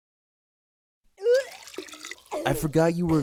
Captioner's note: Rachel vomits